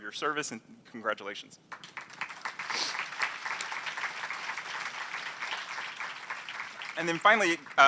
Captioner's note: applause